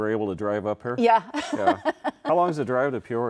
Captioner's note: laughs